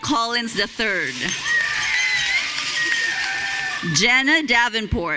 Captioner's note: audience cheering